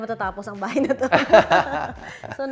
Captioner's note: laughs